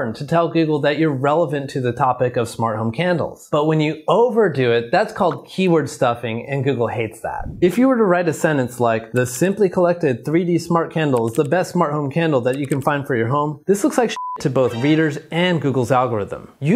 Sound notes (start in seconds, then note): 14.1 beep